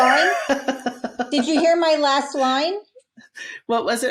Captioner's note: laughing